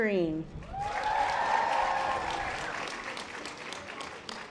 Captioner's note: audience applause